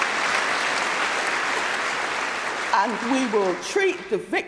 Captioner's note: applause